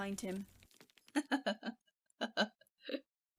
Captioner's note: laughs